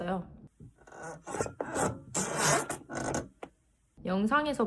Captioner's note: shifting my bodyweight to make the sound